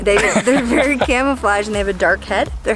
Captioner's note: laughing